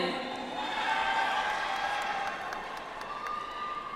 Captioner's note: audience applauds